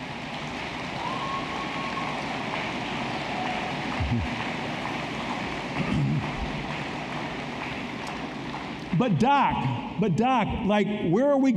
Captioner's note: applause